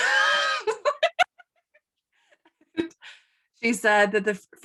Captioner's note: laughing